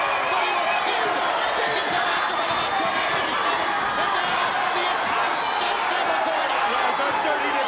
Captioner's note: audience cheers drowns out commentators